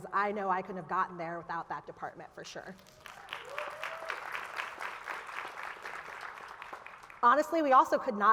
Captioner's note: applause